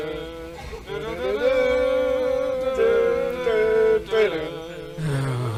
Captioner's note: humming continues; sighs